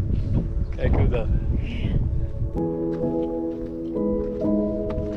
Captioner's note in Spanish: hablando holandés; música suave